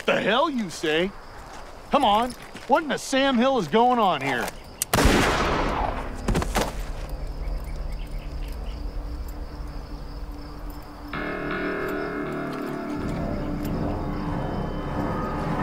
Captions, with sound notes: - He's a wanted man. - The hell you say. Come on, what in the Sam Hill is going on here? (gun fires) (dramatic music)